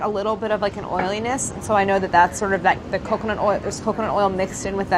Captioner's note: none